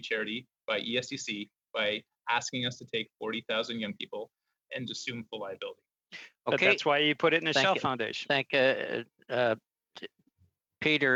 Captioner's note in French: voix de l'interprète